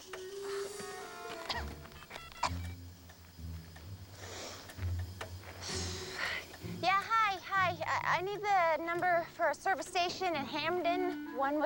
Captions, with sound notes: OH. [ COUGHS ] [ CELLPHONE DIALING ] YEAH, HI, HI. I NEED THE NUMBER FOR A SERVICE STATION IN HAMDEN --